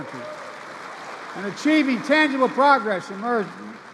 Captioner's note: applause